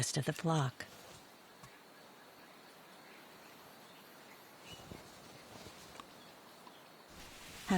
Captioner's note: birds chirping